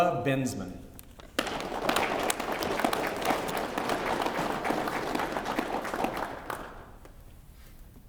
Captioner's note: applause